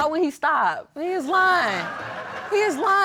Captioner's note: audience laughing